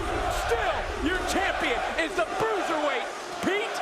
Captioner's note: crowd cheering